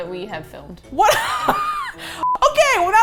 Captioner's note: both laugh